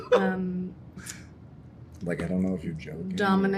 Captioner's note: laughs